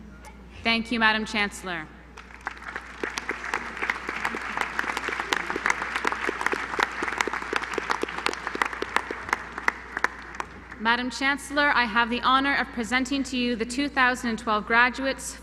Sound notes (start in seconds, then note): 2.1 applause